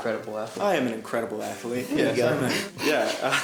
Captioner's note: chuckles; snickers